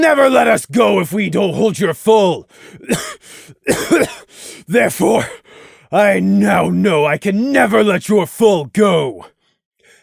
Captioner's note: cough